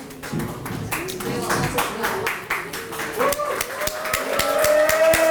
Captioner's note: applause